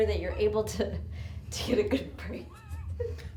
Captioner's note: laughs; chuckles